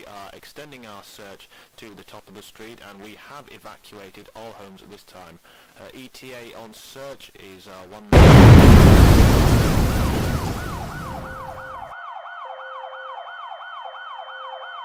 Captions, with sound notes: We are extending our search to the top of the street and we have evacuated all homes at this time. ETA on search is one (Explosion) (Various alarms)